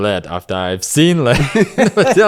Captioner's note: laughs